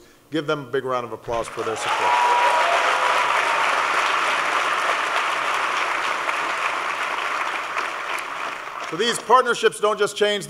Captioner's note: applause